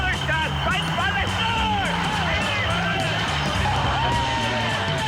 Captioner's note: cheering